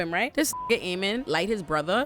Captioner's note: beep